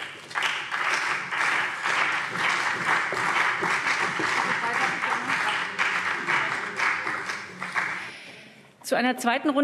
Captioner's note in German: Beifall